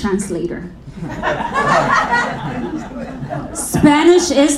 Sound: audience laughing

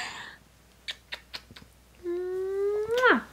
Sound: smooches

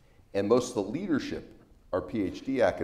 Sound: none

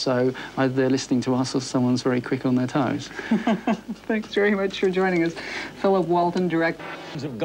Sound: laughing

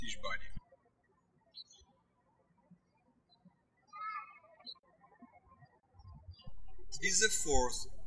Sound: birds chirping

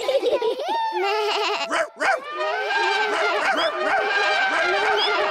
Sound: all giggle; all shout and make noises

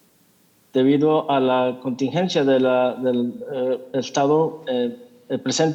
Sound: translator speaking in Spanish

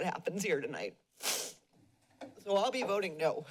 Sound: sniffles

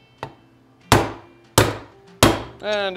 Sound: hammer pounding

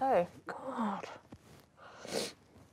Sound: sniffles

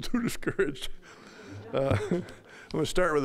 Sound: all laughing

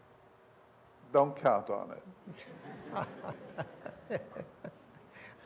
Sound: laughter

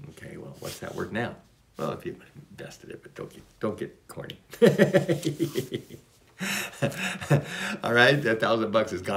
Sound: laughs

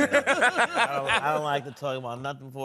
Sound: laughing

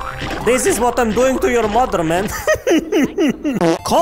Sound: laughs

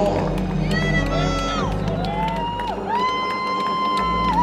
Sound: cheers

